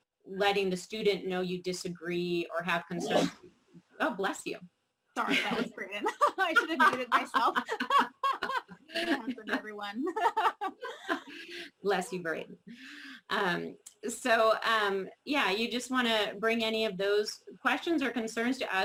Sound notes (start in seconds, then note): 3.0 sneeze; 10.0 laughing